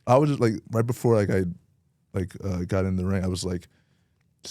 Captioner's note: none